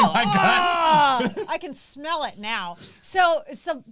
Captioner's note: groans